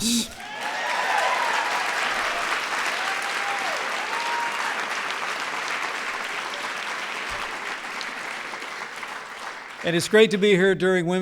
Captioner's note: applause